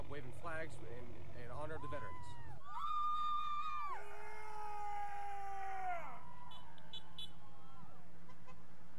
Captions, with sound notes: waving flags in honor of the veterans. (cadets cheering) (vehicles honking)